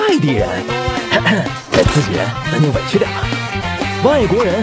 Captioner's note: cough cough